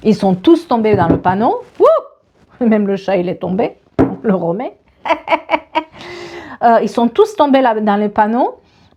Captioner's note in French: rires